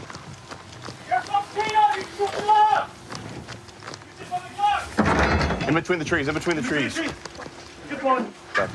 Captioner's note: shouting